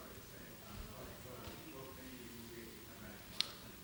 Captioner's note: audience mumbles